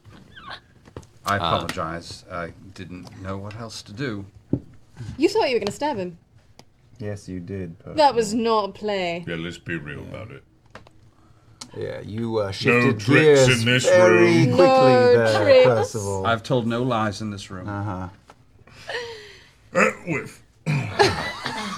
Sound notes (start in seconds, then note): 20.6 fake cough